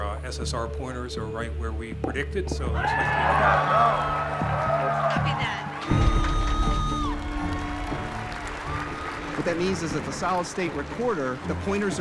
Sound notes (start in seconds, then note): 2.9 crowd cheering, applause; 7.9 applause